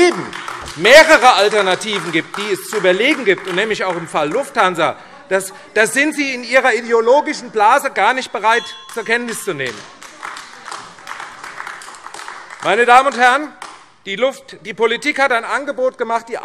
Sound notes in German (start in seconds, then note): 8.9 Beifall AfD - Zurufe BÜNDNIS 90/DIE GRÜNEN